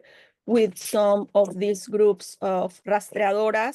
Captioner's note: speaking Spanish